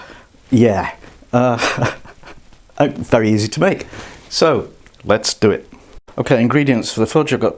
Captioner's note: laughs